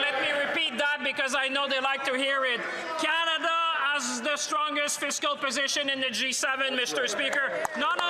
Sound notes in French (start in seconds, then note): 3.1 voix de l'interprète